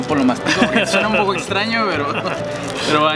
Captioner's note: laughs